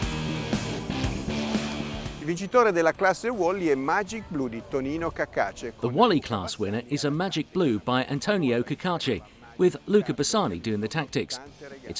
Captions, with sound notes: (speaking foreign language) The Wally Class winner is a Magic Blue by Antonio Cacace with Luca Bassani doing the tactics.